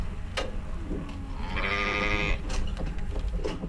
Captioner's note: sheep baaing